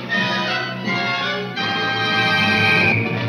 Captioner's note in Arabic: صافرة البداية